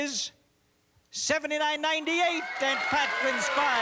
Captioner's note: cheers and applause